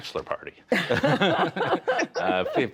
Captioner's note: laughter